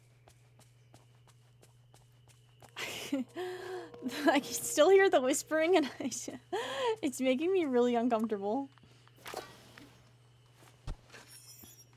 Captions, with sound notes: [Low Whispering Continues] [Distressed Laugh] I can still hear the whispering, and it's making me really uncomfortable.